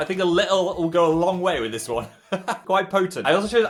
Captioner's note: laughs